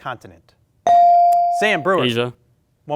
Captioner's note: bell ring